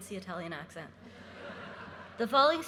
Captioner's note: audience laughing